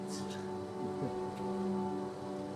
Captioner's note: laughs